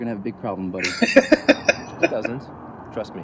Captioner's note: laughing